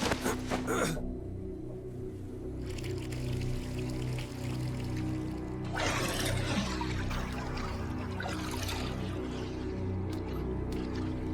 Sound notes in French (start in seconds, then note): 2.4 la musique douce et tendue continue; 2.6 l'eau coule